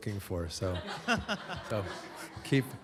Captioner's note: laughter